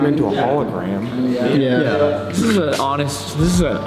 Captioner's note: all agree